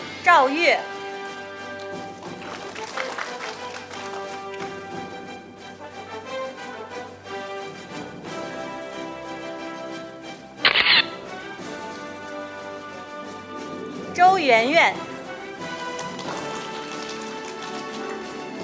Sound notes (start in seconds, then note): 0.0 orchestral music; 1.4 audience applauding; 4.9 orchestral music; 10.7 camera shatters; 14.3 audience applauding